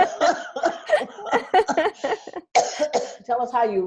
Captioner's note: laughing